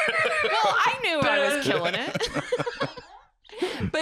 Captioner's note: laughs